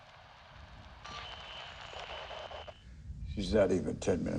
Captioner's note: signal interference